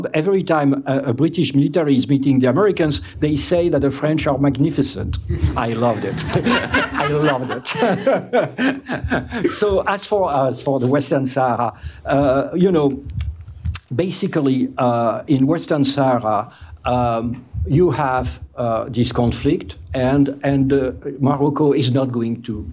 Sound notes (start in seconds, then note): 7.7 laughter